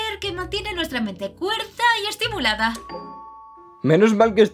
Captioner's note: doorbell rings